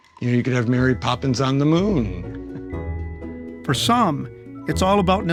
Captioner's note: laughing